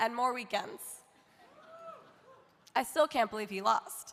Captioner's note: audience cheering